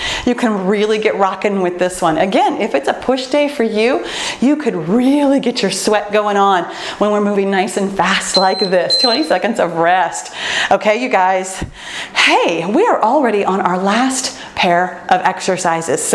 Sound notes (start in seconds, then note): 8.3 timer beeps